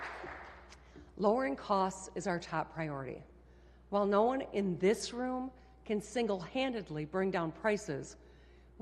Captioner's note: applause